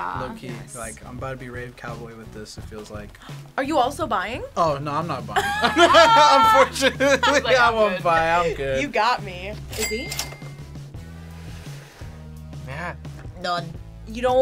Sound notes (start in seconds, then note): 5.4 laughs; 9.7 cash register dings